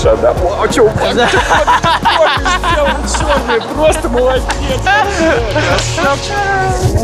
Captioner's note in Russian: Смеются